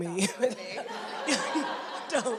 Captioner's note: laughter